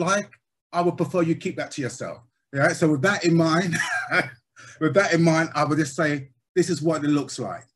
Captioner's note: laughs